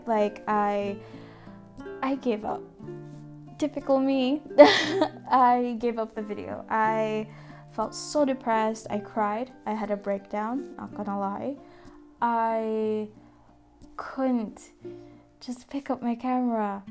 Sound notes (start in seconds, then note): 4.6 nervous and annoyed laugh